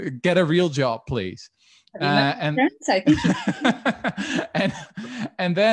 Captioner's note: laughs